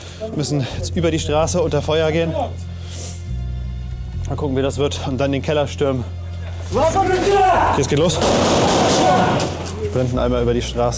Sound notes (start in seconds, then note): 6.7 shouts